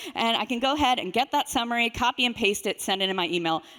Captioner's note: none